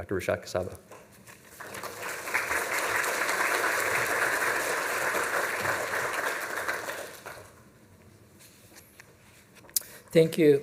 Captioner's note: applause